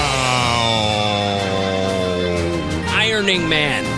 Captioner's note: howls